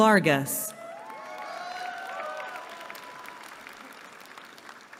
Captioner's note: cheering